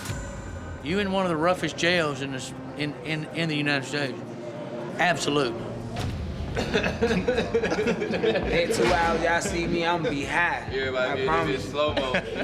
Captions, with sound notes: You're in one of the roughest jails in the United States. Absolutely. [men laughing]